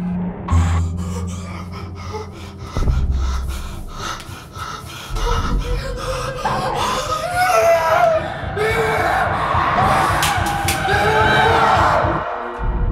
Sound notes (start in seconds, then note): 3.2 gasping for air; 7.1 screaming